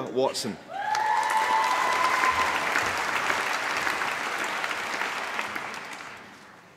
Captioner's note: applause